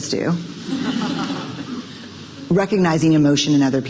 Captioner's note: audience chuckles